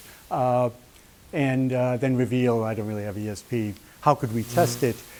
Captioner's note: none